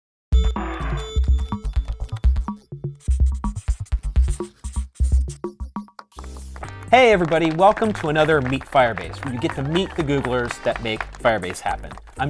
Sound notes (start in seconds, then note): 6.2 applause